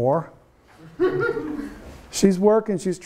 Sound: students laugh

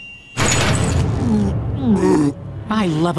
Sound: grunting

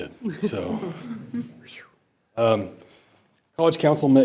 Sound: board laughs

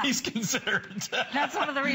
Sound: laughter

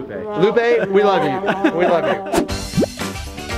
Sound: laughing; swing music

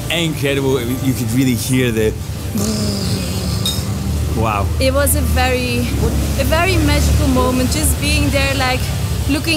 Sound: volcano noise

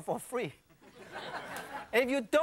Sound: audience laughing

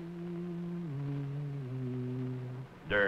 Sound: hums

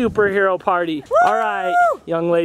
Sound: mom whoops

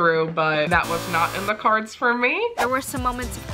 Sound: circle buzzes

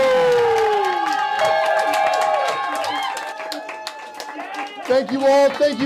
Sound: cheering

